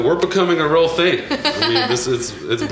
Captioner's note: laughter